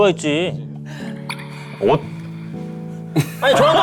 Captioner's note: teary